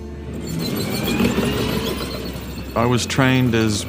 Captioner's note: tank engine roaring